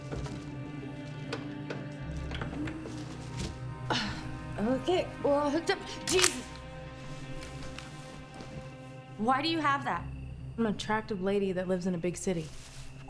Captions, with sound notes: (VCR clicks) (VCR whirs) (grunts) Okay, we're all hooked up. Jesus. (gun clicks) Why do you have that? - I'm an attractive lady that lives in a big city.